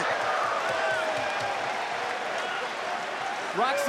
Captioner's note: audience chanting